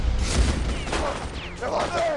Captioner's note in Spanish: Disparos